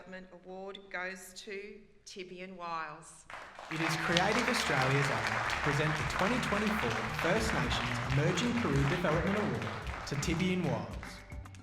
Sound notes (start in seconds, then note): 3.0 applause